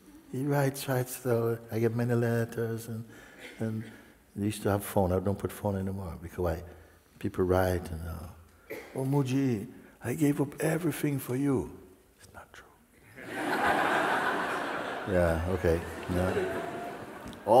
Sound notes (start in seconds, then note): 11.9 whispers; 13.1 laughter